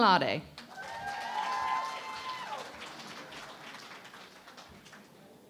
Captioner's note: cheering and Applause